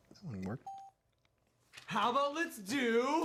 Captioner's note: check mark dings